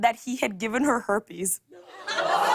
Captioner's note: audience ohhs